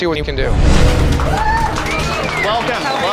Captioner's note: cheering